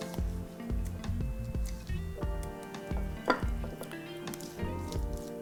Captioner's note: bowl clanking